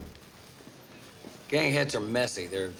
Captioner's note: overlapping chatter